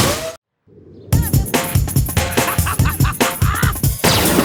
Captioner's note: laughing